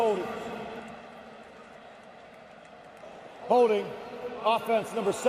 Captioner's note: pa announcement